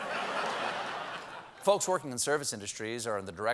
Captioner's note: laughter